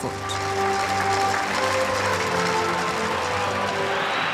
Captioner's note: applause